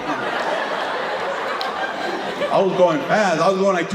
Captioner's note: audience laughing